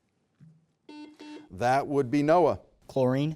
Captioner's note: buzzer buzzing